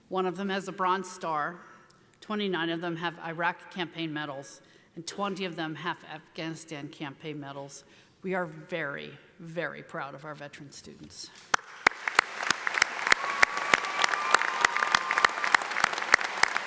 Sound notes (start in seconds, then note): 11.5 audience applauding